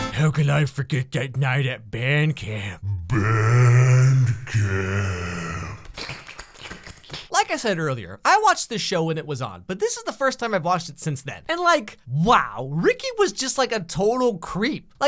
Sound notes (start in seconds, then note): 5.8 slurping